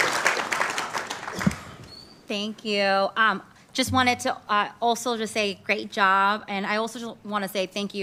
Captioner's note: applauding